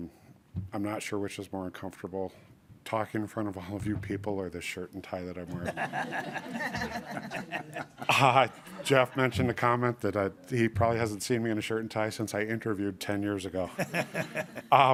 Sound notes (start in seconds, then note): 5.9 audience applauding